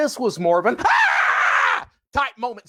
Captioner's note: screams